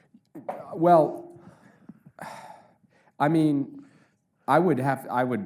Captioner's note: Jake sighs